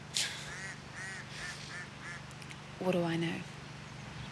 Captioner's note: laughs